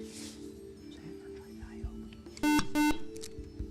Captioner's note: whispering